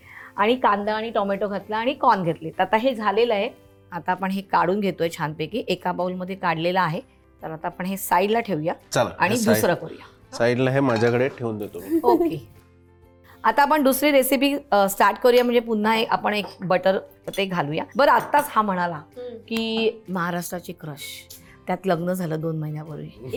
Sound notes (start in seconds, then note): 11.8 chuckles